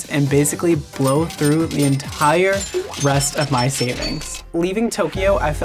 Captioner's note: cash register rings